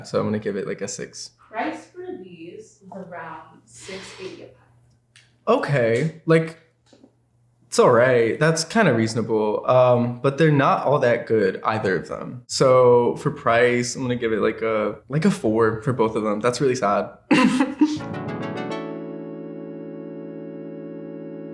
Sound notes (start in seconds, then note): 17.4 laughs; 18.0 ascending tones